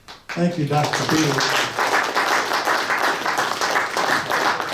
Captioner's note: audience applauds